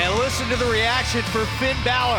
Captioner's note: cheers & applause